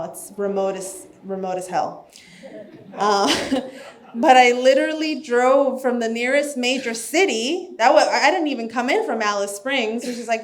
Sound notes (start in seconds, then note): 2.3 laughs; 2.4 audience chuckles